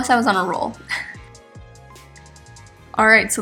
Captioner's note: chuckles